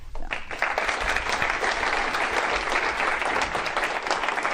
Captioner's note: applause